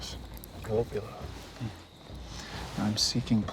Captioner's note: speaking cherokee